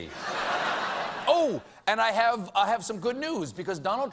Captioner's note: laughter